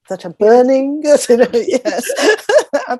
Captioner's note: laughs